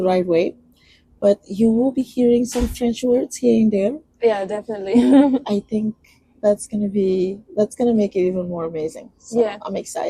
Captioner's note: laughs